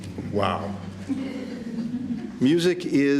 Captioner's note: laughter